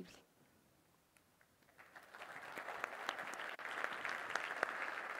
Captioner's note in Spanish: aplausos